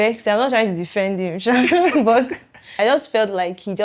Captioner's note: laughs